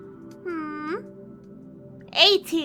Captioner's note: thinking cat noises